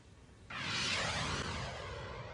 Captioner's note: air whooshing